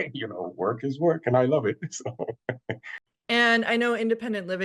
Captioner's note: chuckles